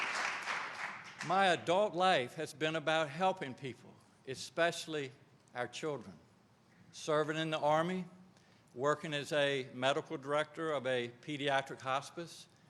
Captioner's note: applause